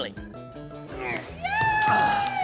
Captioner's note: groans